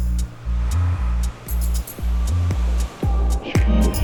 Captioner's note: inspiring music continues; waves crashing; inspiring music continues